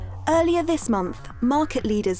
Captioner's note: electronic music; voiceover